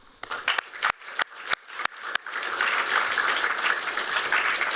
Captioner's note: applause